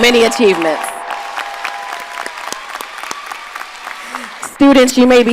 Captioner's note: audience applauding and cheering